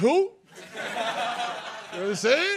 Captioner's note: laughter